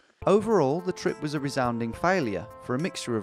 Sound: none

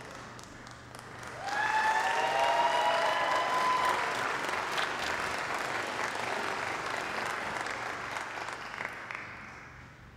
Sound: applause

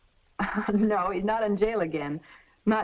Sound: laughs

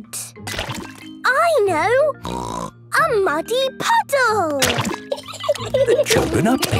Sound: laughing

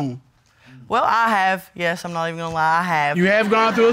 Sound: laughs

